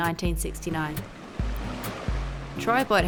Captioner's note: waves crashing